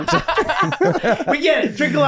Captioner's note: group laughing